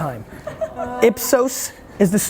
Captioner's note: laughter